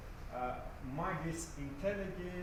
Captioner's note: non-english